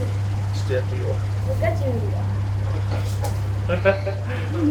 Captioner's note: laughs